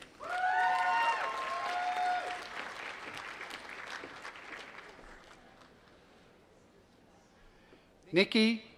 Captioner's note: applause